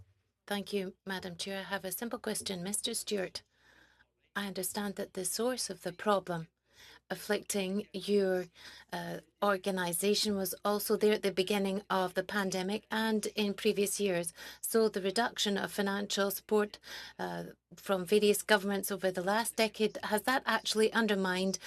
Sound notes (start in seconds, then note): 5.7 speaking French